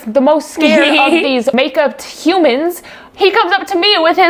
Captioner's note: laughs